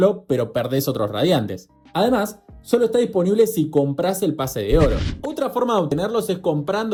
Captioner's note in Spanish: resoplido